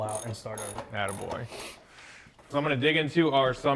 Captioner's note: ratchet clicking